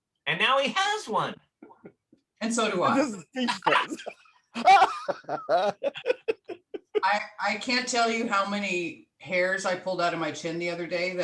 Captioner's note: laughter